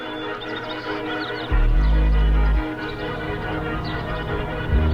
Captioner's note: birds chirping